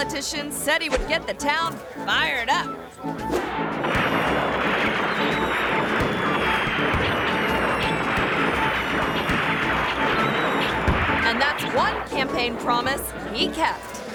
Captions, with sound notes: This politician said he would get the town fired up. (fireworks popping) (quirky music) And that's one campaign promise he kept.